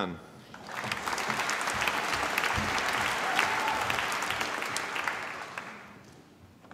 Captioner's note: applause